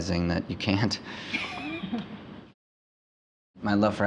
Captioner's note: interviewer laughing